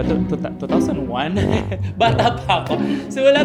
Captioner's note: laughs